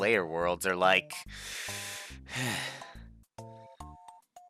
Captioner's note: breathing